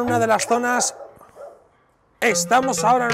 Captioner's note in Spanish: Ladridos